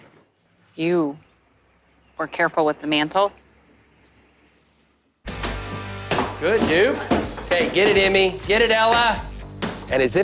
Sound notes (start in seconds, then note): none